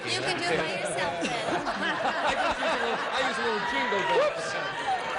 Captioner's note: laughter